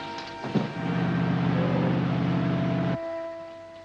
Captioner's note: faint suspenseful music; car rumbling